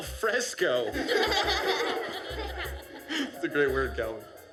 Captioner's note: laughter